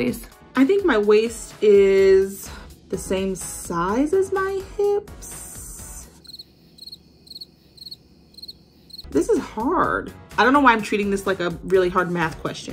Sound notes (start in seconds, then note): 6.2 crickets chirping